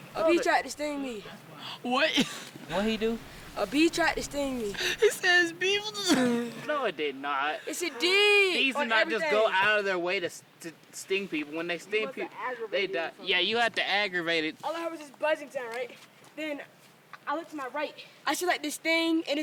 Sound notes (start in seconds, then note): 2.4 chuckles; 5.8 laughing